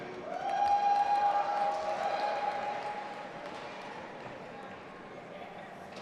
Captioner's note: audience applauding and cheering